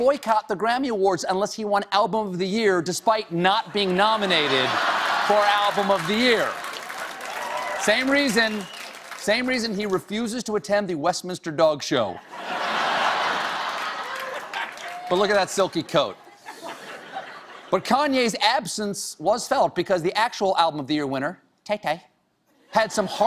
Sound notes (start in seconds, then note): 3.8 laughter; 4.1 applause